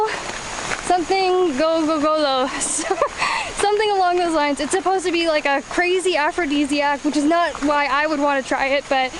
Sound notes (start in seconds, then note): 2.7 laughs